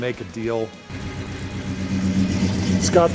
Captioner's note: engine roaring